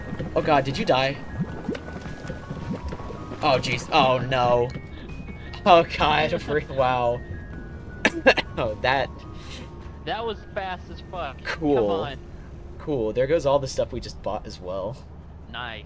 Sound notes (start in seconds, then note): 8.0 cough; 8.0 hah ha